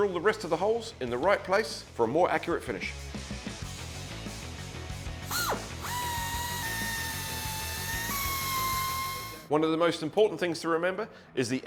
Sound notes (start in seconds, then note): 3.6 rock music; 5.3 drill